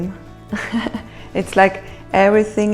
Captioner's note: laughs